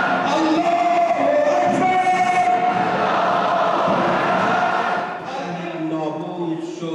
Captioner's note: Arabic spoken language